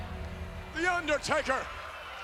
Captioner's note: applause